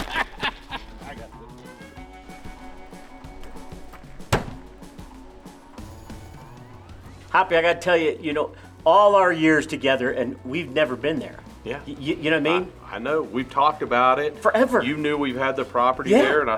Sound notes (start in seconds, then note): 0.0 laughs; 4.0 window slams